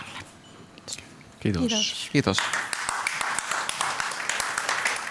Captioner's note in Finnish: Aplodeja